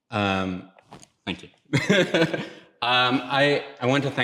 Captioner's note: laughs